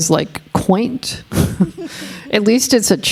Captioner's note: chuckling